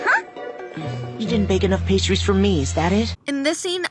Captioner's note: his little stomach-heart grumbles